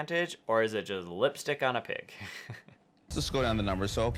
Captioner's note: laughing